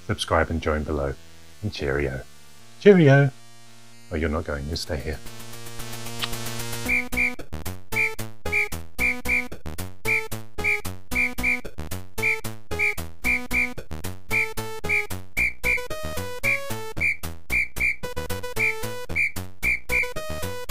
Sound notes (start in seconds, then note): 7.0 whistle tweeting